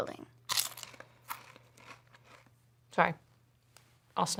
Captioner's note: chip crunching